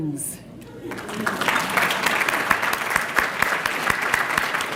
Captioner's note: applause